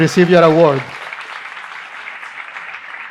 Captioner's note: applause